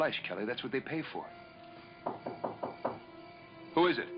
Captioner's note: knock on door